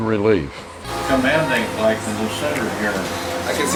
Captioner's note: murmuring